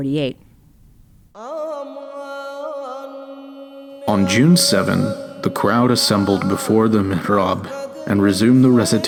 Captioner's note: foreign language